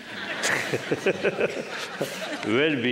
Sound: laughter

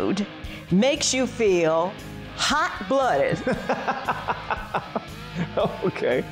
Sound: laughing

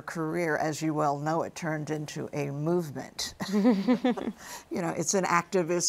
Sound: both laughing

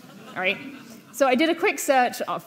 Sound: audience laughing

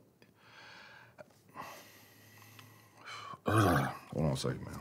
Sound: gasps

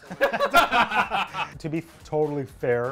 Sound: laugh

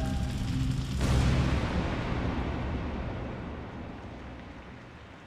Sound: explosion

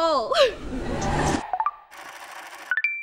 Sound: air whooshing; ascending beeping

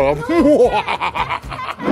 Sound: evil laughter

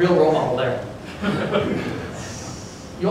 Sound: laughter

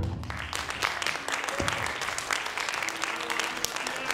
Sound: audience applauding

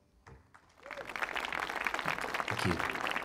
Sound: audience clapping

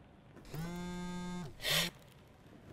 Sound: phone vibrates

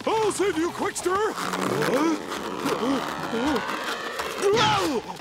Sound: grunting; groaning

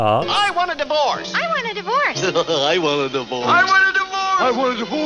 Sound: many voices

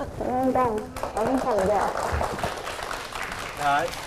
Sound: applause

